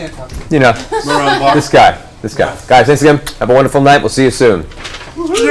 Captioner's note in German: lacht